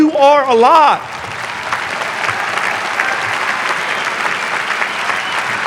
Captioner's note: audience applauding